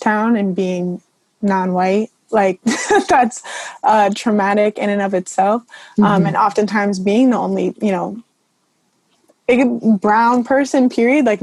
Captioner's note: laughs